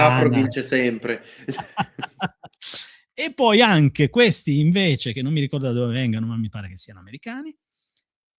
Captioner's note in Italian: risate